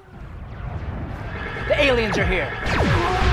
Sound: alien noises

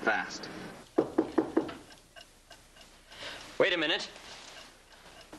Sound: knock at door

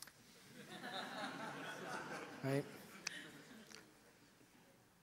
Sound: audience laughter

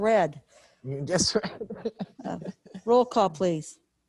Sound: laughs

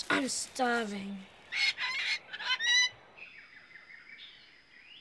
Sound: bird squawking

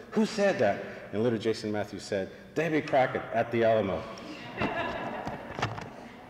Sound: laughs

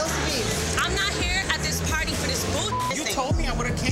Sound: beep

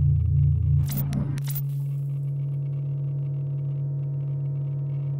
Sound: TV channels flickering

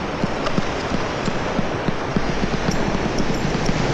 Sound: water Waves Sound

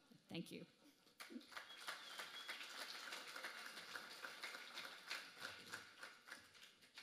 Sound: applause

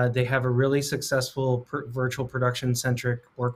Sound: none

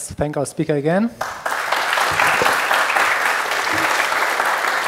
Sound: applause

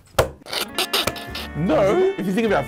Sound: both laughing

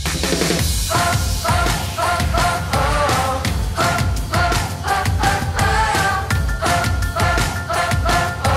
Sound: vocalizing

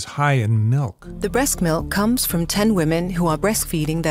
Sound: voiceover

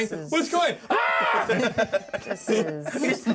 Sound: laughs

